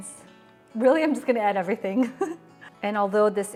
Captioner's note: laughing